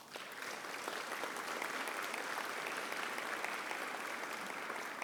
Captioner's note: audience applauding